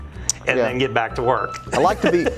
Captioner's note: laughs